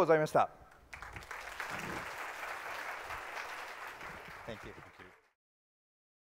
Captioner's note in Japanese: 拍手の音